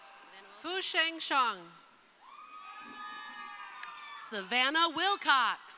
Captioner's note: crowd cheering